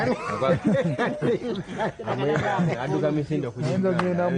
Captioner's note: everyone laughing